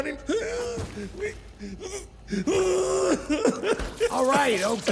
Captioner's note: sobs